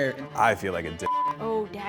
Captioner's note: beep